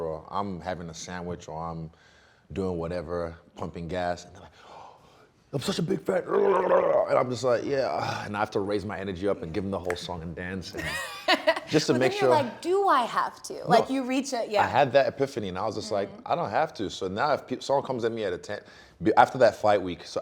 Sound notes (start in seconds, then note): 6.1 grumbling; 6.3 sighs